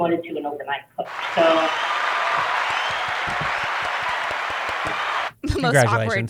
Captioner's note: applause